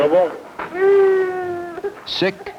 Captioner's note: police dispatch; baby crying